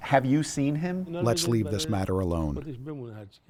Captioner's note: through translator